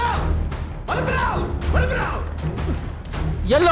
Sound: Malay Language; Malay Language

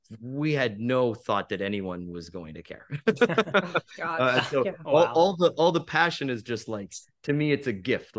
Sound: laughs

